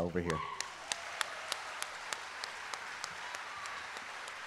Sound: audience applauding

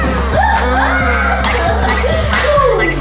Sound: laughing

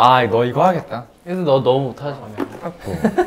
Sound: confident

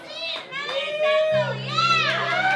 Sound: crowd cheering

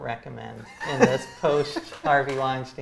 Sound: laughs

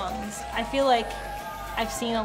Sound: crowd cheering

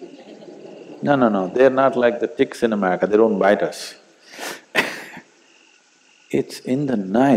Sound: laughs

